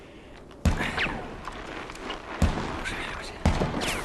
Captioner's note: sounds of stray bullets